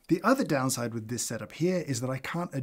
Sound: none

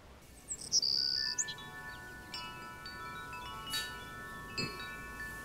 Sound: wind chimes ring

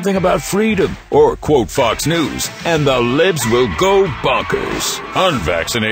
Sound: bonkers, bonkers echo

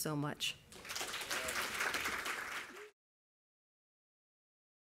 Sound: audience applauding

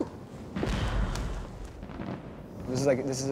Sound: fireworks exploding

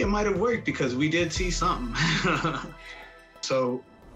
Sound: laughs

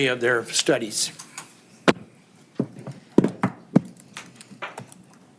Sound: keyboard clacking

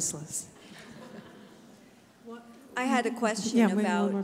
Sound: audience laughs

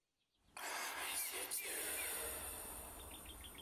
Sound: eerie voice

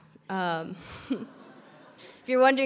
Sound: chuckles; audience laughs

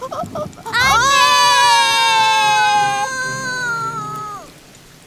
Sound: shouting

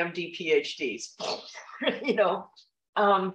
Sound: laughter

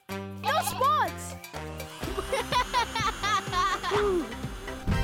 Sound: laughter

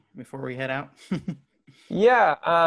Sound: chuckles

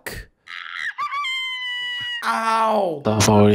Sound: screech

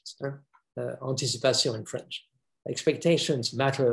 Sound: speaks foreign language

